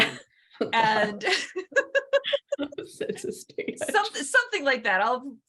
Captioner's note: laughter